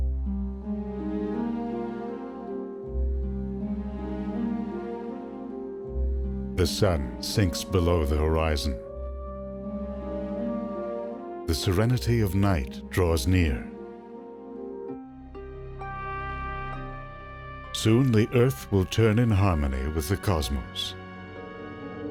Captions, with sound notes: (orchestral music) - [Voiceover] The sun sinks below the horizon. The serenity of night draws near. Soon the Earth will turn in harmony with the cosmos...